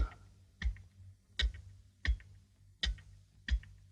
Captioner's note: clock ticking